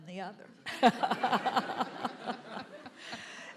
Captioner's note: laughter